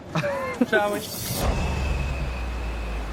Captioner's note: laughing; water rushing; beat drops; intense music